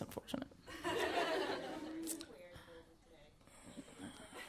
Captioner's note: audience laughing